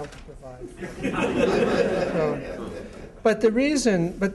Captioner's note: laughter